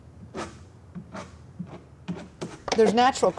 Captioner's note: scrape